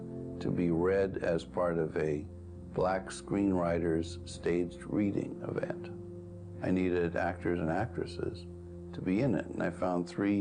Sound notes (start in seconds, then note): none